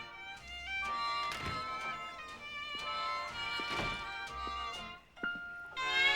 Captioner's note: door opens, closes